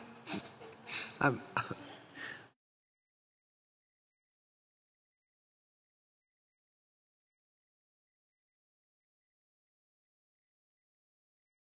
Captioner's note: laughter